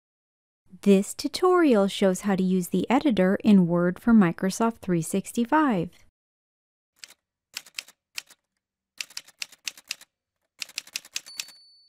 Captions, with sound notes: This tutorial shows how to use the Editor in Word for Microsoft 365. [Typewriter sounds]